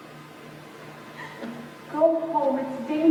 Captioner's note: crying